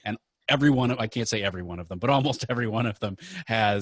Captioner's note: laughing